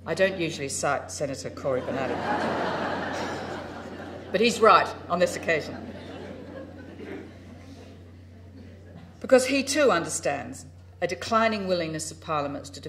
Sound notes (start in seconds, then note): 3.5 crowd laughs